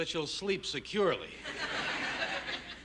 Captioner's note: laughter